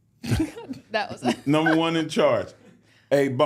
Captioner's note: laughs